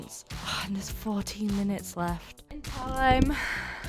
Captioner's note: sighs